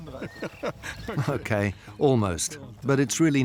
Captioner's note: he chuckles